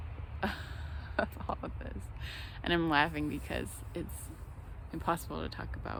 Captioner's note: laughs